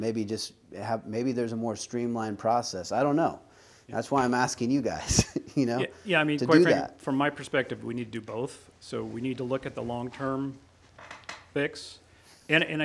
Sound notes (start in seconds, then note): 5.0 chuckles